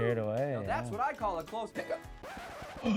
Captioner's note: hiccups